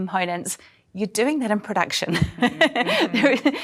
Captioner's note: laughs